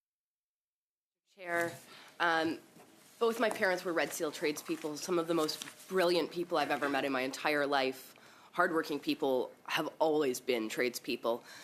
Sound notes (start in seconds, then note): 3.6 speaking in French